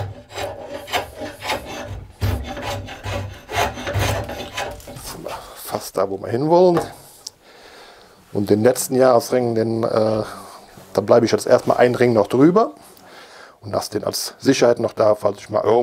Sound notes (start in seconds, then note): none